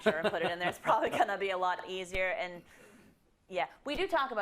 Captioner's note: laugh